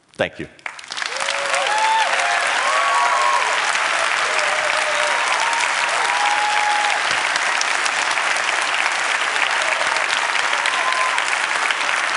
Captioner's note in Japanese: 拍手